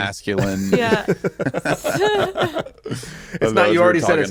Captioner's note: all laughing